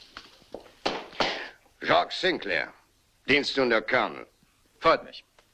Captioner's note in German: stampft mit dem Fuß auf